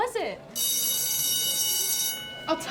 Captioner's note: school Bell Rings